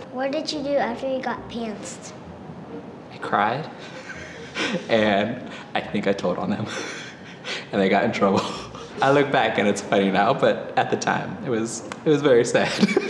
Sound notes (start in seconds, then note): 3.6 chuckling